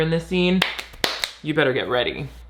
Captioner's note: hands clapping